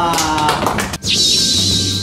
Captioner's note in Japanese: 拍手